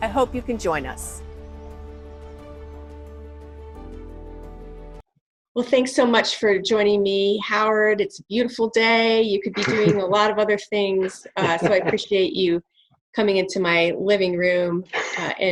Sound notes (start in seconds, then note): 0.0 inspiring music; 11.0 chuckling